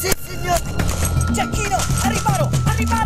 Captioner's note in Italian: bang